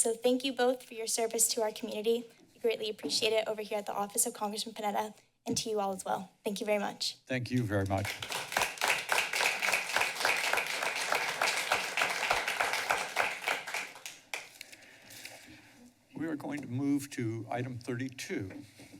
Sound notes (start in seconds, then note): 7.8 clapping